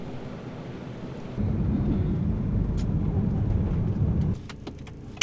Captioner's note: car engine